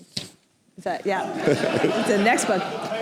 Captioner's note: laughter